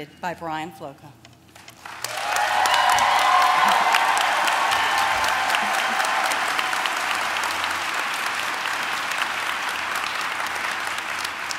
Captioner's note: applause